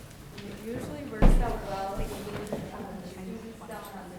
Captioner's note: speaking faintly